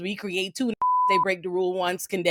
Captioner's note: beep